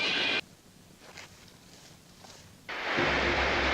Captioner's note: digging; waterfall; intense Music